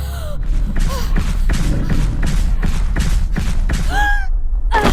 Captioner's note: gasping; thumping footsteps; dramatic music; shouting